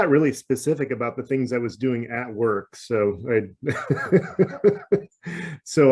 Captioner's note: laughs